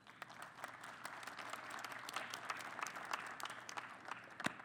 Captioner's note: applause